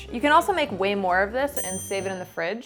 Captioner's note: bell tings